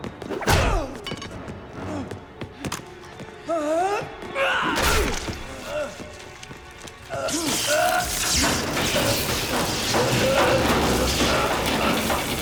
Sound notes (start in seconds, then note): 0.5 Dalton grunts; 0.5 blow thuds; 3.5 Dalton yells; 4.5 flesh squelches; 7.2 electricity sparks; 7.4 Gammon groans